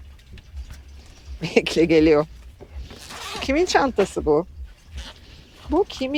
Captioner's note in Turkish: homurdanır